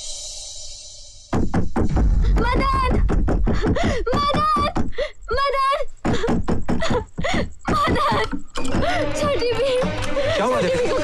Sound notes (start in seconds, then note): 2.4 door knocking; 7.6 door knocking